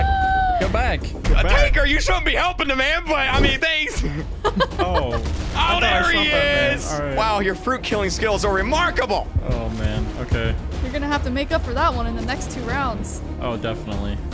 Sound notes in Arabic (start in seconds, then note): 3.8 ضحكة مكتومة; 3.9 ضحكات خافتة